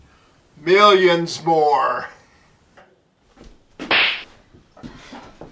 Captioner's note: smack!